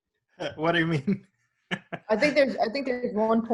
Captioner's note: chuckles